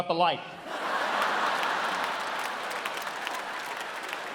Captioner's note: audience laughs